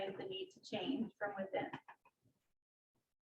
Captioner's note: none